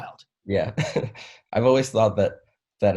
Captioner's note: chuckles